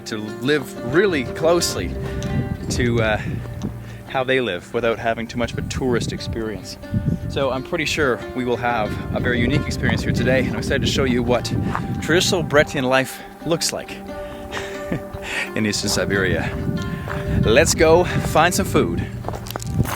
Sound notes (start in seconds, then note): 14.4 laughs